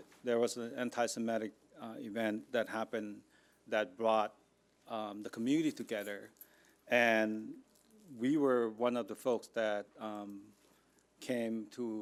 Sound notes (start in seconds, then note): none